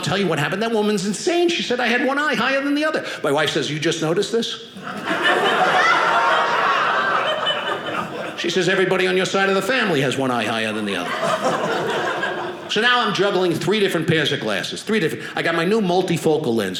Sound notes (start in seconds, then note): 4.8 audience laughing